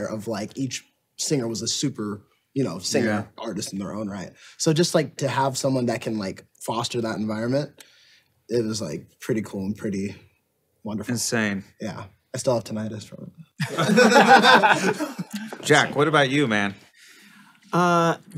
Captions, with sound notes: of like each singer was a super singer artist in their own right. So just to have someone that can fall foster that environment, it was pretty cool and pretty wonderful. - Insane. - Yeah. I still have tinnitus from... (all laughing) - Jack. What about you, man?